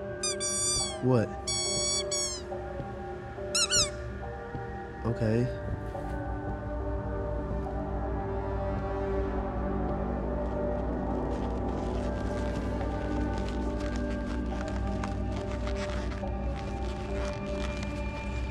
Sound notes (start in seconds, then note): 0.2 clown squeaks; 3.5 angry clown squeaks; 7.9 music intensifies